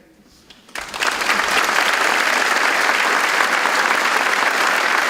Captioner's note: audience applauds